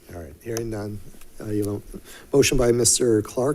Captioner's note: mumbles